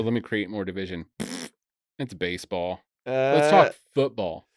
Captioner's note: blows raspberry